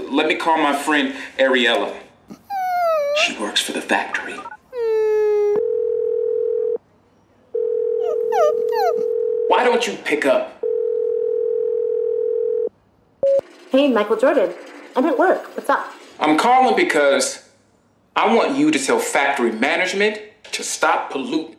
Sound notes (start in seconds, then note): 2.3 whines; 5.6 phone beeping and ringing